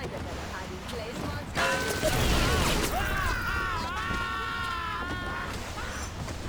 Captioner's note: screaming